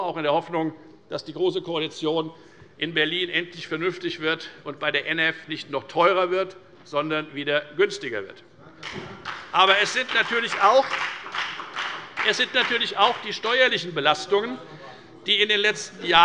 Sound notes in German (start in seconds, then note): 8.8 Beifall bei der FDP